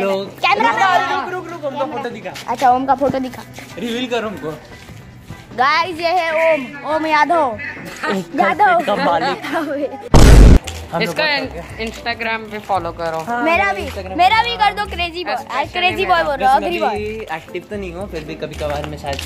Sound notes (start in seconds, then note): 9.6 light laugh; 10.1 vine boom sound effect plays